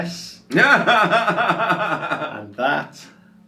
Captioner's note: laughs